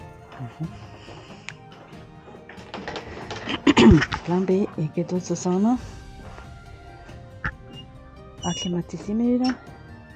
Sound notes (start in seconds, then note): 3.4 clears throat